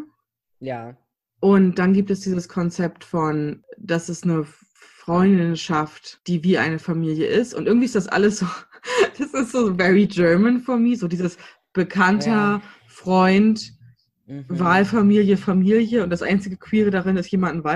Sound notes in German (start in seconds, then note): 9.0 lacht